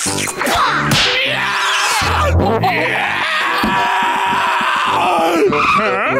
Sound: screaming

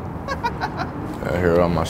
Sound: laughs

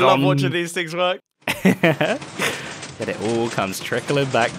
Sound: laughs

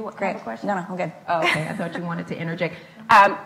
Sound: laughs

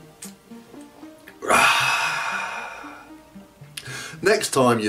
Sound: sighs

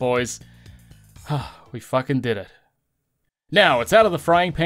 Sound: big sigh of relief

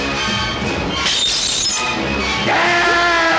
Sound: bottle smashed

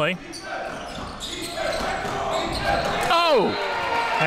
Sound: crowd cheering

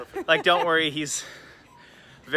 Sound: laughter

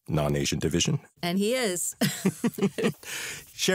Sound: laughter

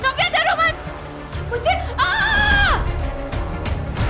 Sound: screams

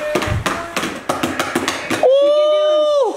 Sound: kids banging

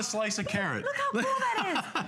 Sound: laughter

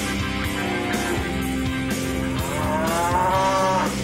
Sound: cow mooing

